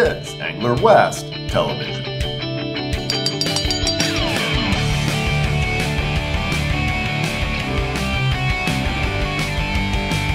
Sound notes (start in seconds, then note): 2.9 bell ringing